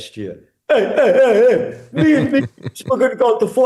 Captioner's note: laughing